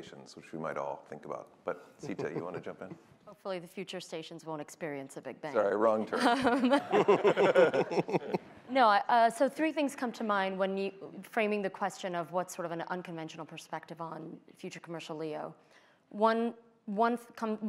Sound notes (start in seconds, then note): 6.0 laughter